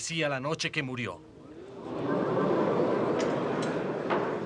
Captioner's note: murmuring